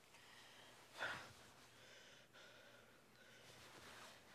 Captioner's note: Chris panting